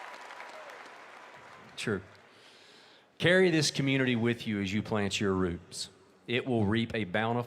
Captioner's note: laughter and applause